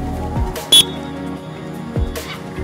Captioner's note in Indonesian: Peluit